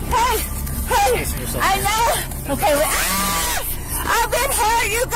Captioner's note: suspect screaming